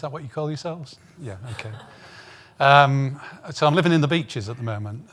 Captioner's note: audience laughing